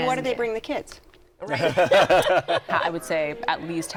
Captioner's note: laughter